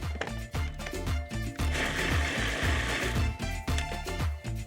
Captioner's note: blades whirring